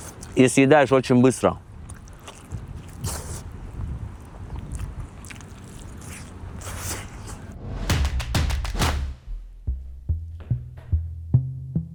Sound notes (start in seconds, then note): 0.0 eating sounds; 2.0 eating sounds